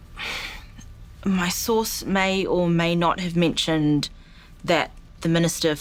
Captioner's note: sighs